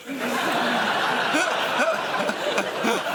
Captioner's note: laughter